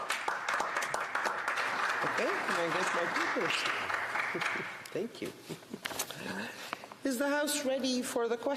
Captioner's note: some Applause